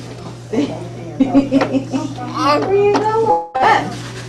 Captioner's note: laughing